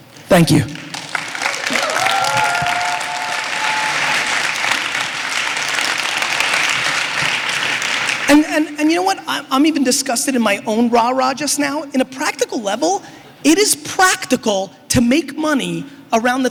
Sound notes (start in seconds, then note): 0.6 applause